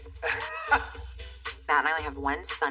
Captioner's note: laughs